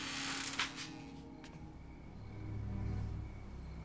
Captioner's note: wood creaks